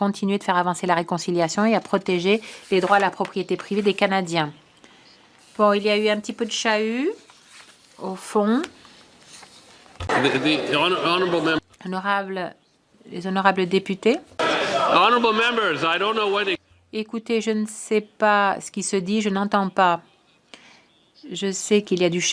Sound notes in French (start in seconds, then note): 10.2 voix de l'interprète